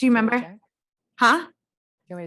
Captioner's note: faintly speaking